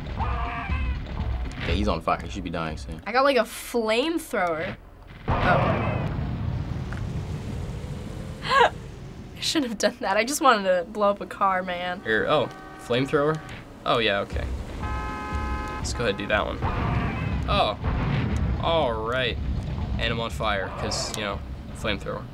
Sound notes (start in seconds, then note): 0.2 people screaming; 0.2 screaming; 5.1 boom!; 8.4 laughs; 14.9 cars honk; 16.7 explosions